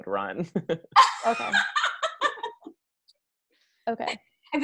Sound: loud guttural laughing

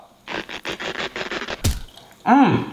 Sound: elastic stretching sound effect

